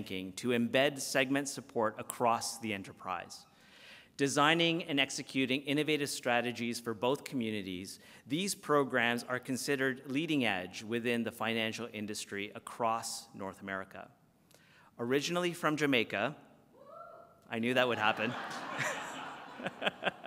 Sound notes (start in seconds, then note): 17.1 applause